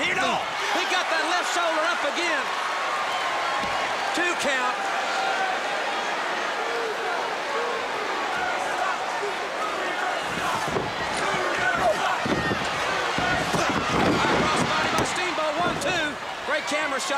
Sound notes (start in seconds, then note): 6.2 crowd cheering